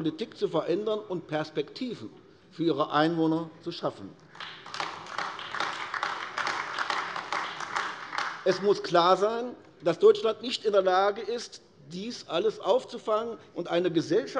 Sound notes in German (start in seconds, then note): 4.3 Beifall AfD